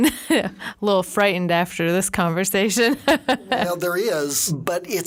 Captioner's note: laughing; laughing